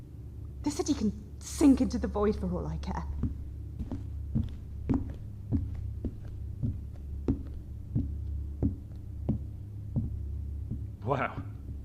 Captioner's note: receding footsteps